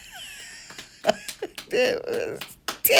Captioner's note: grandma laughs; clapping